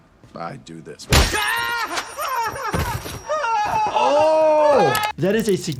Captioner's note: person screams